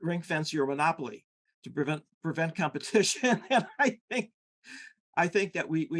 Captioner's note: laughing